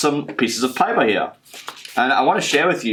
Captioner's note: papers rustling